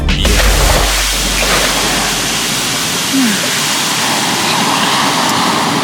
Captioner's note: sizzling; water splashing